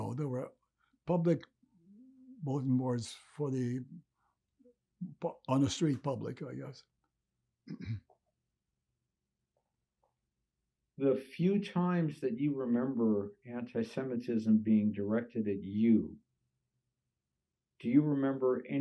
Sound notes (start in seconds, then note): 7.6 clears throat